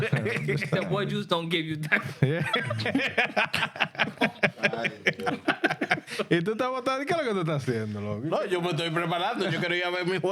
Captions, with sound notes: (Laughing) The white juice don't give you that. (Laughing) (Speaking In Foreign Language)